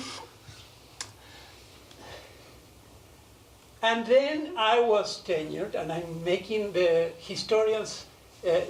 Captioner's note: none